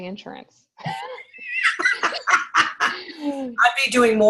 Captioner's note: everyone laughs